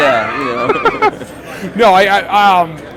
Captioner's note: both laughing